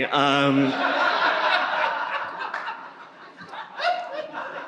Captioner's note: audience laughing